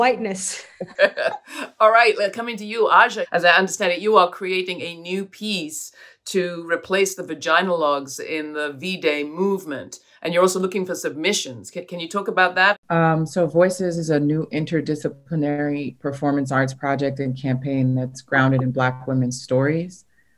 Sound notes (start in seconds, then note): 0.5 laughs